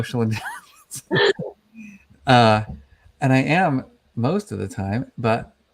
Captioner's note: laughing